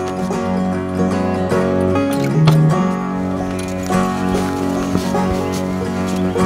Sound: gate closing

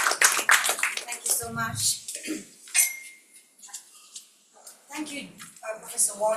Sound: audience applauding

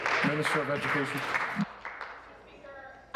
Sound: applause

